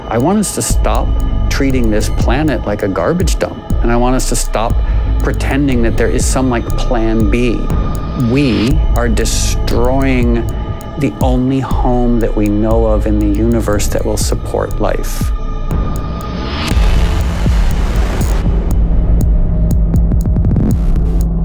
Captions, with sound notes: - I want us to stop treating this planet like a garbage dump. And I want us to stop pretending that there is some like plan B. We are destroying the only home that we know of in the universe that will support life. (boom) (dramatic music)